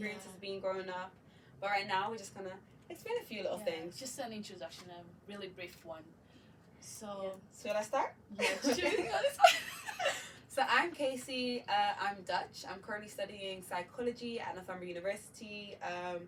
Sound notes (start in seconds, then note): 11.2 both laugh